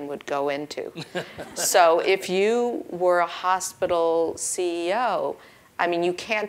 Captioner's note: laugh